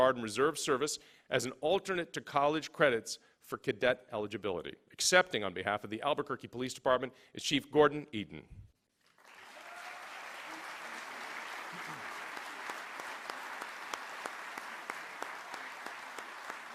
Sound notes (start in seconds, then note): 9.0 applause